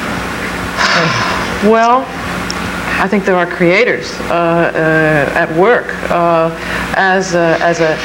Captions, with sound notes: - (sighs) Well, I think there are creators at work